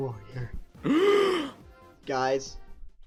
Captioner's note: le gasp